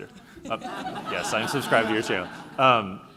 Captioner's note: laughing